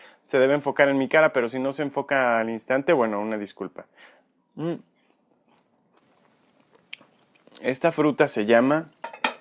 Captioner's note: chomp